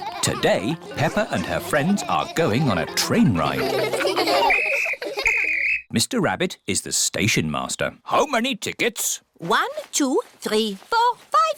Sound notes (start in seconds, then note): 5.1 blows whistle